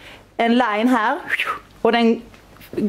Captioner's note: shoowsh